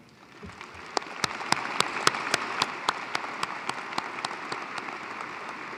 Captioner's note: applause